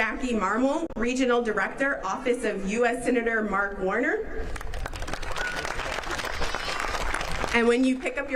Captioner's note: applause